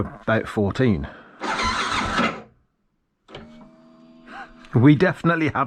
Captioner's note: engine not starting